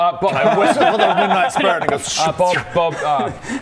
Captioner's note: schh